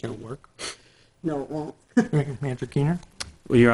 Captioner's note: laughs